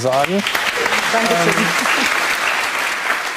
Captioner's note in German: Applaus